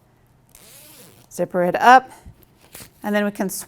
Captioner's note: zipping sound